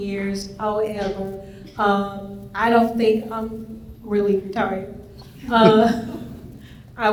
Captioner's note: laughs